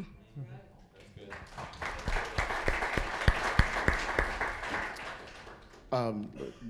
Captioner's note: applause